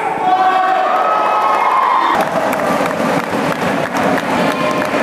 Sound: applause

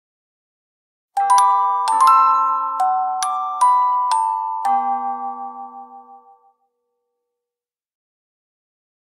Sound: sound of clock bells

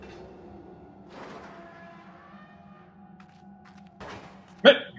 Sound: creak of opening door

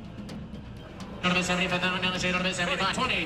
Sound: auctioneer chant

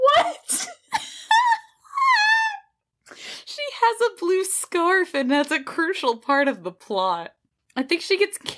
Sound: both laughing

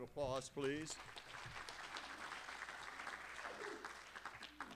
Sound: applause

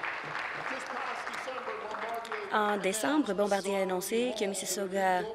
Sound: applause

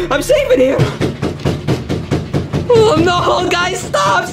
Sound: someone banging on the door

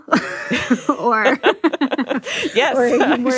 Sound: both laugh

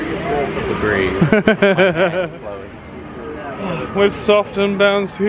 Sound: laughing

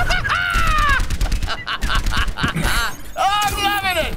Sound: firing weapon; laughing

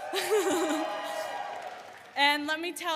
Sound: audience cheering and applauding

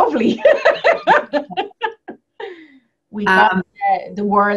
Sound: laughs

